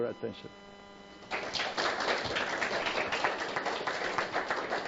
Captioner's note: applause